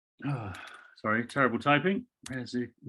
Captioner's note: sighs